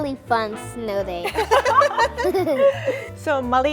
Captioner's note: laughs